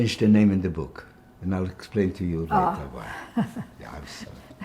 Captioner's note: laughing